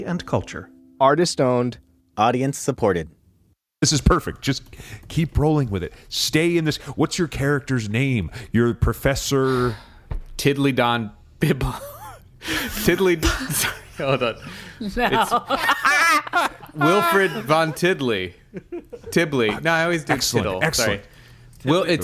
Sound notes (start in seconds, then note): 15.0 laughs; 15.0 laughter